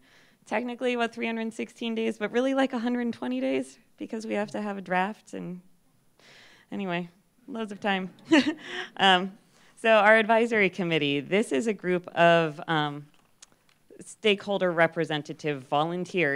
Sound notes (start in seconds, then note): 8.2 laughs